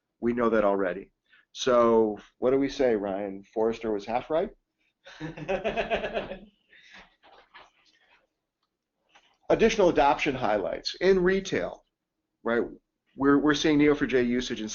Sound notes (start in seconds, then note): 5.1 laughs